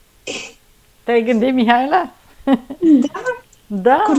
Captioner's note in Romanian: râsete